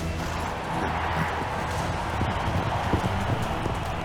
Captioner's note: crowd cheering